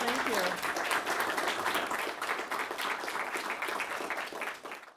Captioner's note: audience clapping